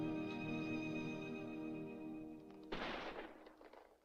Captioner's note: gunshot In Distance